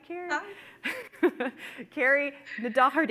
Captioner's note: chuckling